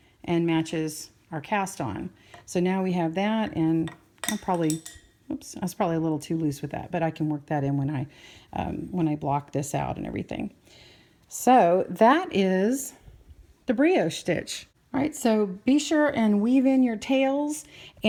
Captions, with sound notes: and matches our cast on. So now we have that and I'll probably, (knitting needle clatters loudly) oops, that's probably to loose with that. But I can work that in when I, when I block this out and everything. So that is the Brioche stitch. Right so be sure and weave in your tails,